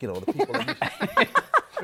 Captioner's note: laughter